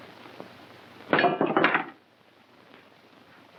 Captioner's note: clanging